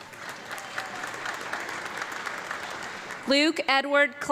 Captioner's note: audience clapping